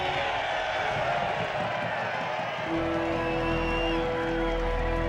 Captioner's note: cheering